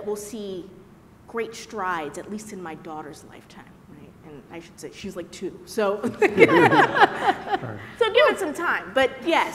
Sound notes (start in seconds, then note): 6.0 laughter